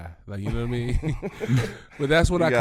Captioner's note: laughing